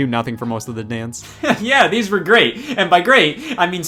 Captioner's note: quick sigh